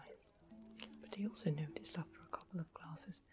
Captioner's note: drinks